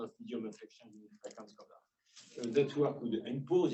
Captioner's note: speaking faintly